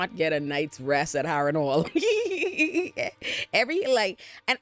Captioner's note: laughs